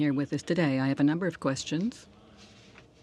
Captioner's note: speaking French